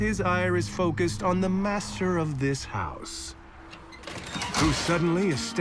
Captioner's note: door creaks open